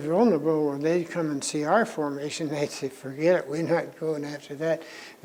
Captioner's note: laughs